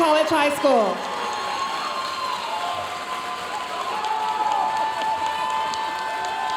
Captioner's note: audience cheering and applauding